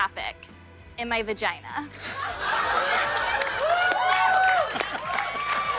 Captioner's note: laughter and cheering